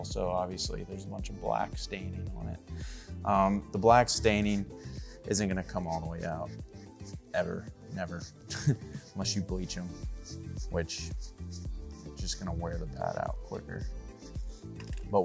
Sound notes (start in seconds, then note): 8.0 laughs